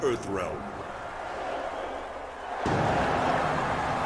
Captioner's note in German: Beifall